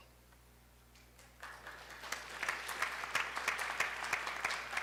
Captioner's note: applause